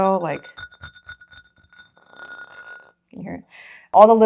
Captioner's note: asmr nail scratching